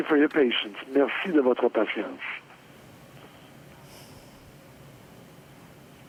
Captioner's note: speaking French